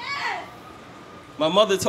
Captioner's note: cheers